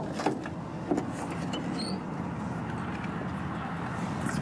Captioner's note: door opens